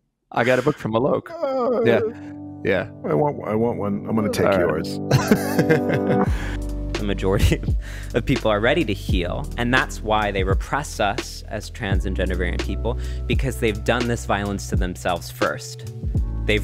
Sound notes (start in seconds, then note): 1.2 moans; 3.8 gentle music; 5.0 Justin laughs